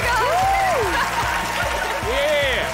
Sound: laughing

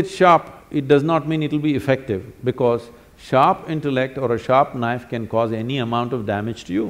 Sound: none

